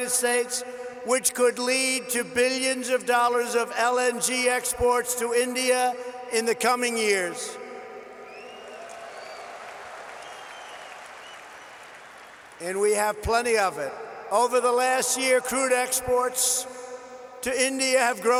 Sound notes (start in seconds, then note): 8.3 applause